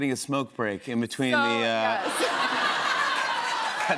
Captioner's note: laughter; cheers and applause